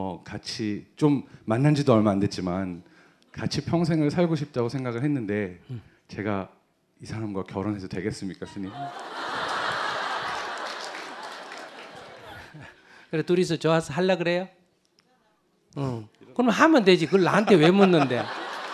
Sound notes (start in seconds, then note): 8.6 audience Laughter